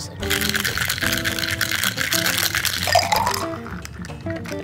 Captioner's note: drink sloshing